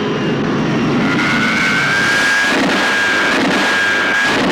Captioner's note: zooming